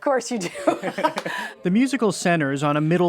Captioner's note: laughter